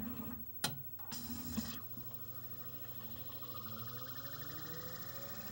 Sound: disc spins up

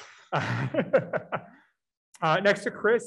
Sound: laughs

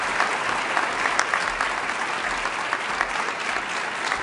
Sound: applause

